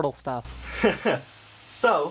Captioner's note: laughing